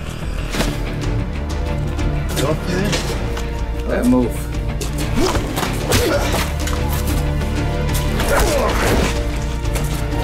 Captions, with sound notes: - You tough, man? - Bad move. [punching]